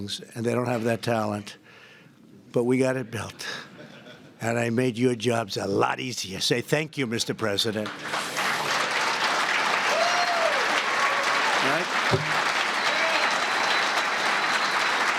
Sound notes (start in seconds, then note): 3.7 laughter; 8.2 applause